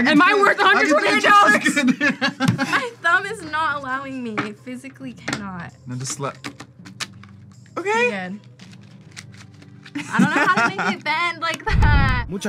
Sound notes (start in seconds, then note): 0.1 laughs; 10.0 laughs